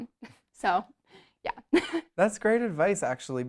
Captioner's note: laughs